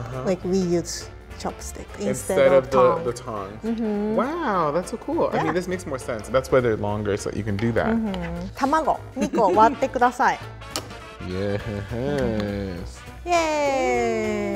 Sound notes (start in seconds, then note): 9.5 laughs